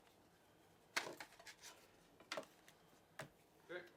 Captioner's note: rustling